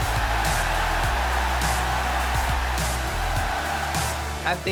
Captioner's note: pop music; cheering